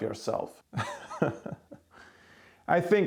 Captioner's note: laughs